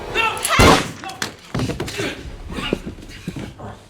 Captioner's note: moaning and groaning